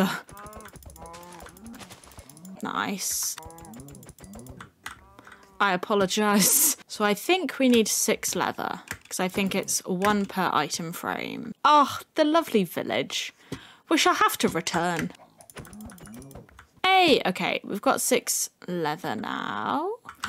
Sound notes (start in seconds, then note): 0.8 more sad moos; 4.9 sad cow noises